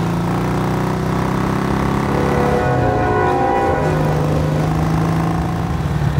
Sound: train horn

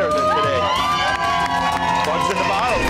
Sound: patrons cheer

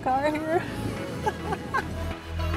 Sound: laughs

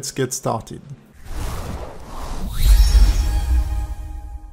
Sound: logo whooshing

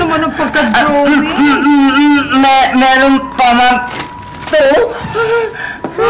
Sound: giggles

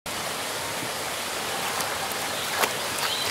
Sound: water rushing

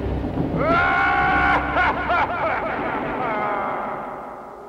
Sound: decapitated head laughs; ominous music

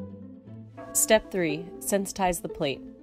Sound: gong chimes

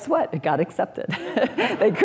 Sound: laughter

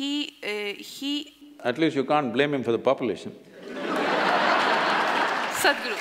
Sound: laughter

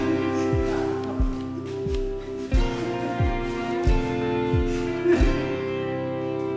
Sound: soft rock music; rebel crying

